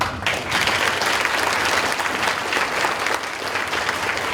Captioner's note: audience applauding